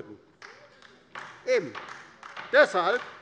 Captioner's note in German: Beifall bei der LINKEN